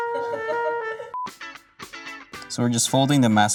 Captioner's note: staff laughing; upbeat music; beeps